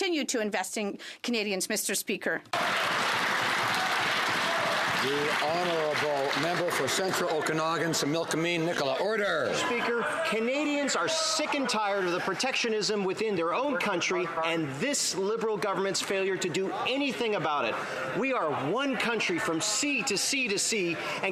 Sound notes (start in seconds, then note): 5.5 some Applause